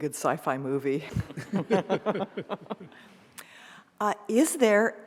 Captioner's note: several laugh